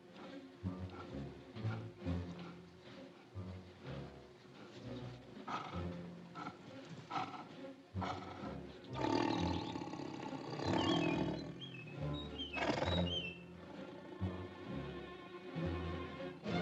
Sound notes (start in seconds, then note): 0.0 tiger breathing heavily; 0.1 ominous music; 7.9 tiger growls; 8.8 ominous music; 13.6 suspenseful music